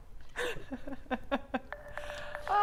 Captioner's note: laughter